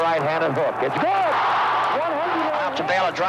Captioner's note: audience cheering